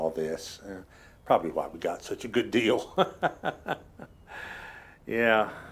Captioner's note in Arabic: يضحك